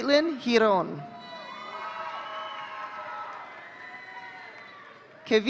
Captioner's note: audience cheering